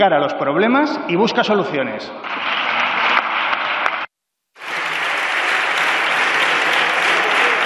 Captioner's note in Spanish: Aplausos